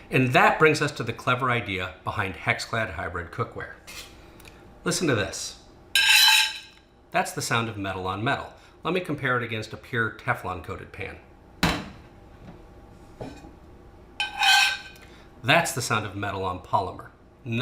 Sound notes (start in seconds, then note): 6.0 pan scrapes shrilly; 14.2 pan scrapes dully